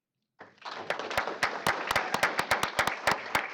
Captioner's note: applause